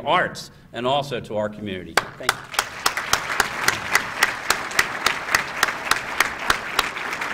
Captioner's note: applause